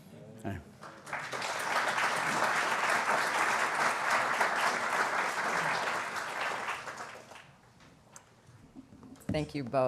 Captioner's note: applause